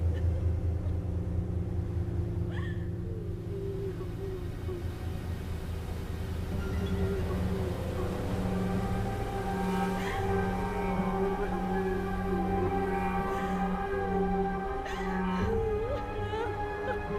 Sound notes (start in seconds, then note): 2.4 siren sobbing; 6.7 sobbing continues; 8.0 music intensifies